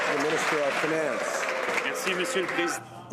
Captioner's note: some Applause